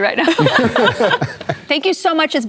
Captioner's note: laughter